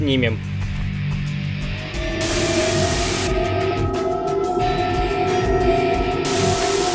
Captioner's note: capture beam vibrations; box engines whine; static; static